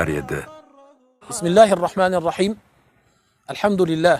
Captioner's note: in Arabic